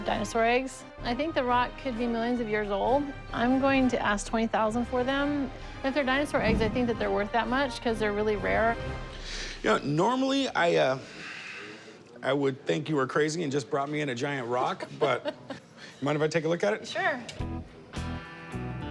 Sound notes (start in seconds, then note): 15.0 laughs